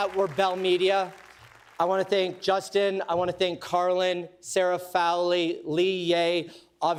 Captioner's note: cheers and applause